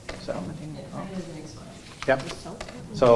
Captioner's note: students murmuring